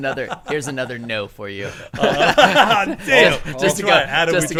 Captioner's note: men laughing